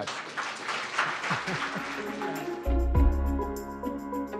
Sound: students applauding; bright music

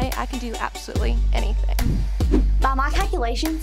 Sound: none

